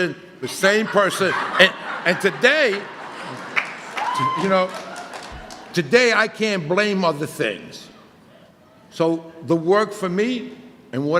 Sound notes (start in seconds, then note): 5.1 audience laughter